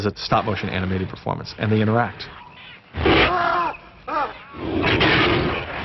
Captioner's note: man and Kong screaming